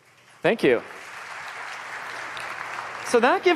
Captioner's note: applause